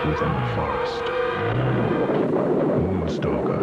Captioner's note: animal growling